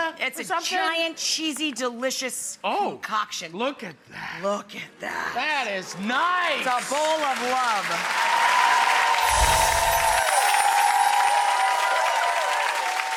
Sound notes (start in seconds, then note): 6.1 audience applauding; 7.8 audience cheering